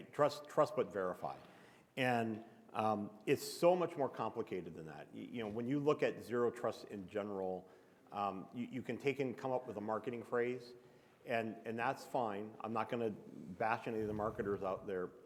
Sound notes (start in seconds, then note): none